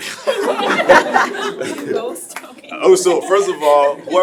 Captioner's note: laughing